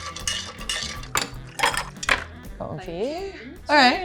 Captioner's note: ice plopping; spoon clinking